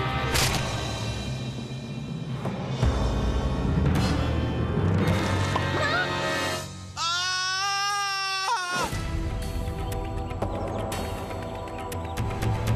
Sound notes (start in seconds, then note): 6.9 screaming